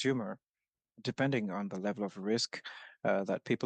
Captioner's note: speaking French